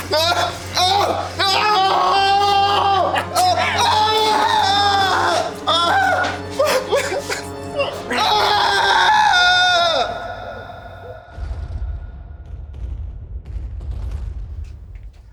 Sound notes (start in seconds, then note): 0.2 prisoner screaming; 6.9 prisoner whimpering; 8.2 prisoner screaming; 11.3 distant bombs rumbling